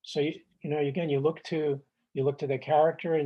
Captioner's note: none